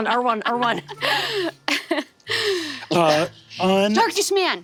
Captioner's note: laughing